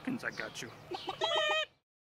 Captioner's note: chickens clucking